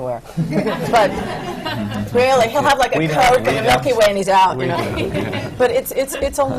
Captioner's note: laughter